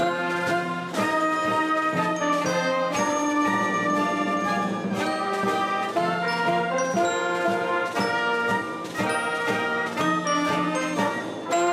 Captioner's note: applause